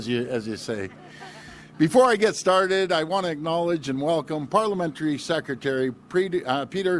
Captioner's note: laughter